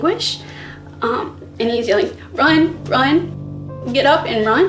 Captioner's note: shaky voice